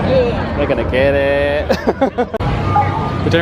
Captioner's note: laughs